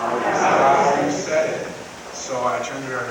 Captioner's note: crowd